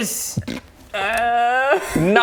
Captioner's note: snort